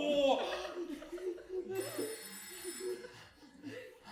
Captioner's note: the phone rings